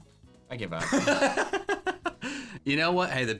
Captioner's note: laughing